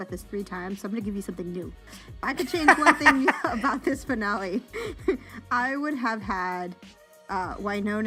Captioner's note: laughter